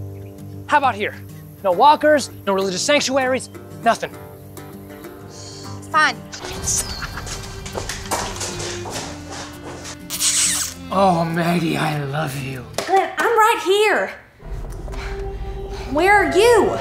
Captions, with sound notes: how about here the walkers and religious sanctuaries nothing (sighs) fine yes hahaha (kiss) Oh Maggie I love you Glenn I'm right here... where are you